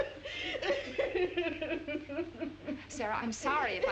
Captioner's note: sara weeping